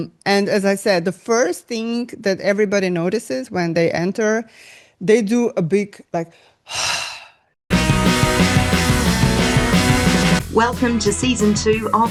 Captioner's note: sigh